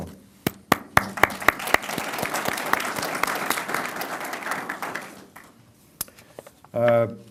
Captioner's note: applause